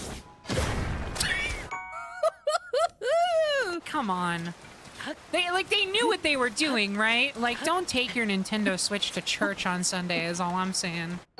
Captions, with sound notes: [Quiet Laugh] Hoo-hoo-hoo-hoo! Come on... They, like- They knew what they were doing, right? Like, don't take your Nintendo Switch to church on Sunday is all I’m saying.